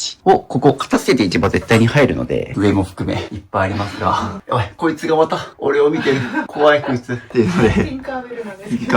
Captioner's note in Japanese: 笑い